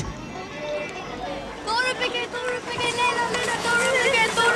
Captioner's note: non-english speech